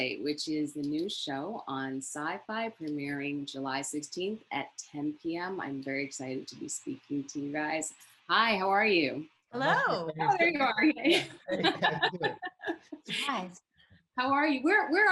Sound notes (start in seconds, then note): 11.0 Sarah laughs; 11.1 laughs